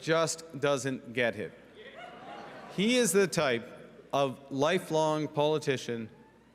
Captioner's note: booing